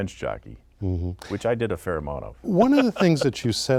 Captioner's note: laughter